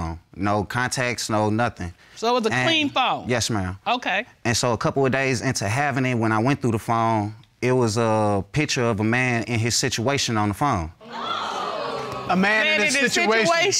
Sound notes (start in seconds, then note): 11.0 audience exclaiming